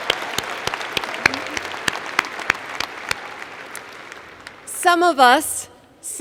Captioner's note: applause